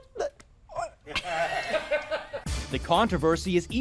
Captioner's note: laughter